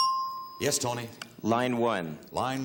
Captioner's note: ting